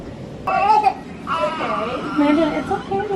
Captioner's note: crying